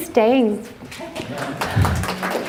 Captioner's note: applause